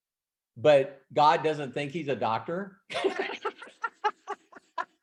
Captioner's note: laughs